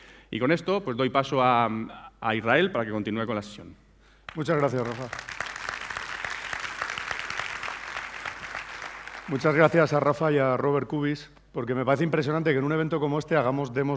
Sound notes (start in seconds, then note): 4.2 applause; 6.5 speaking spanish